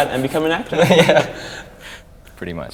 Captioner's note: both men laugh